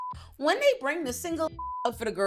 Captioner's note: beep